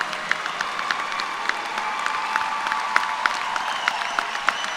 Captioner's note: applause